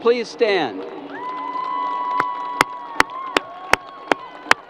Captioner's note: crowd applause